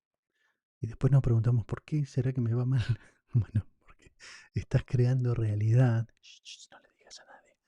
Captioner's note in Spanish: risas